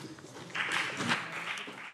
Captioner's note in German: Beifall BÜNDNIS 90/DIE GRÜNEN und vereinzelt CDU